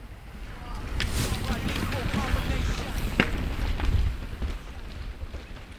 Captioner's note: bikes whoosh past!